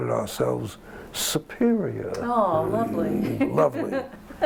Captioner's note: laughter